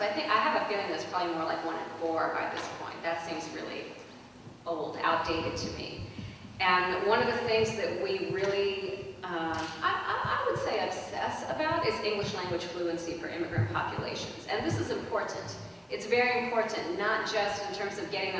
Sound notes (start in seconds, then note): none